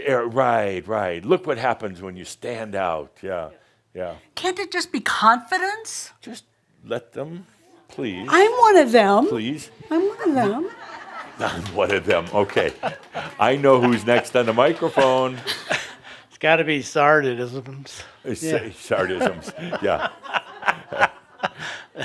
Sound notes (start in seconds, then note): 9.9 some laughter